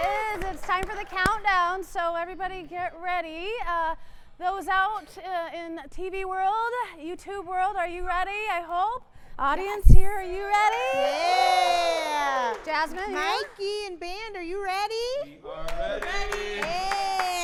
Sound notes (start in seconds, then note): 0.0 audience cheering; 10.4 audience cheering; 15.6 clapping